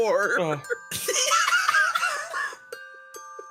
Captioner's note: laughs